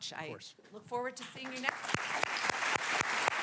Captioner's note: applause